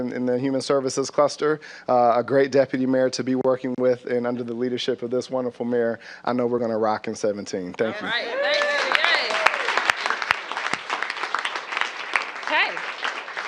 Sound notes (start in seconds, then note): 8.3 applause